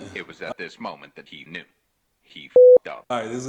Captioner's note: beep